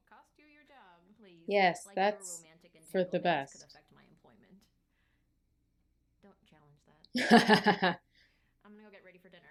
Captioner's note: laughter